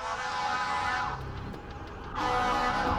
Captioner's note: sirens, horn blaring